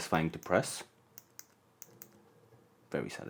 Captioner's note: click